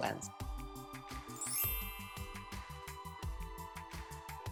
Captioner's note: gentle music; graphic chimes